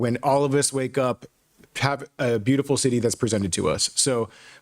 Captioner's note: none